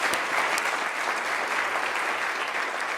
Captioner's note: applause